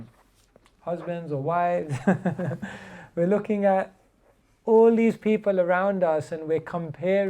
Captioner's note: chuckles